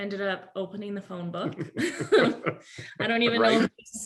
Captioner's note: laughs